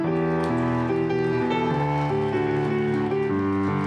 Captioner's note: applause